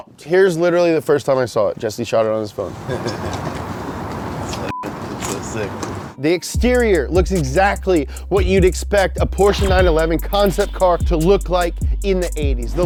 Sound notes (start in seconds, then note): 2.6 laughs